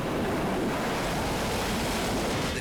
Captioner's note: waves crashing